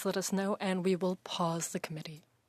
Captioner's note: speaking French